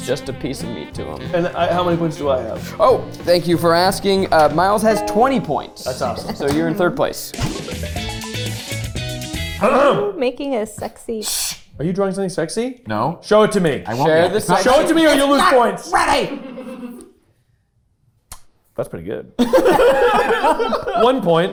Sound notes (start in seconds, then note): 7.9 playful music; 11.6 shushing; 16.7 staff laughing; 19.4 group laughing